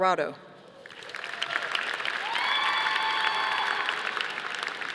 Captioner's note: audience applauding